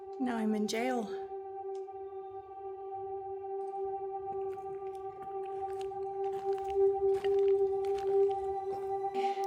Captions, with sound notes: Now I'm in jail. [footsteps]